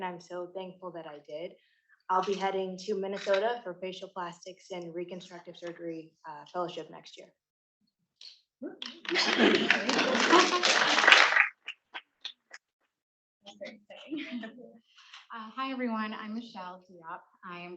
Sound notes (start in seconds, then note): 8.9 attendees applauding; 13.5 chuckling